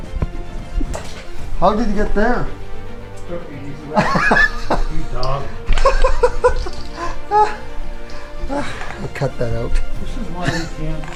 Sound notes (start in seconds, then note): 3.9 laughing